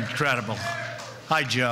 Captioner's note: cheers and applause